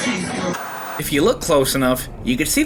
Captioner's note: white noise scratching